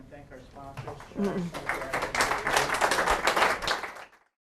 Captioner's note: audience applauds